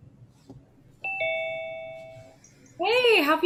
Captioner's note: bell dings